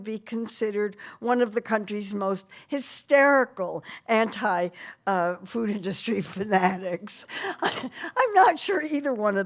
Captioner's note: laughing